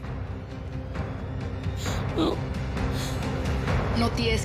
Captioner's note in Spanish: none